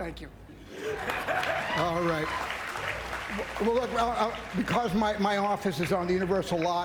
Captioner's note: applause